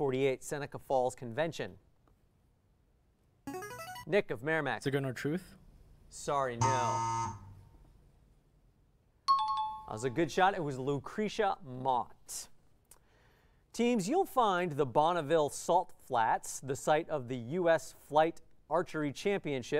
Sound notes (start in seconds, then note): 3.0 player buzzer; 6.6 error buzzer; 9.3 timer bell